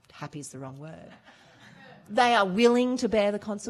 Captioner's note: laughing